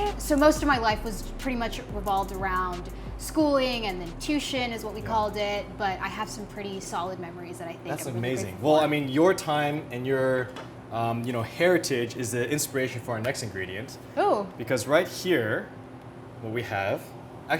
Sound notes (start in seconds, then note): none